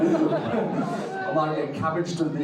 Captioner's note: audience laughing